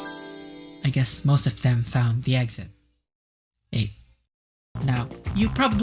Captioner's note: sparkle noises